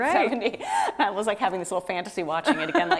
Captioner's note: laughs